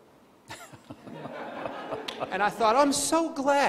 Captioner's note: crowd laughing